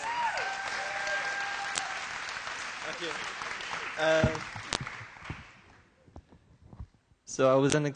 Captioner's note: applause